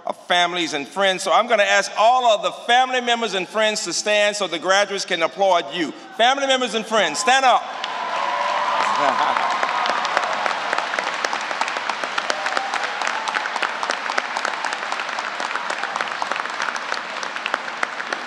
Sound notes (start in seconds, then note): 7.7 applause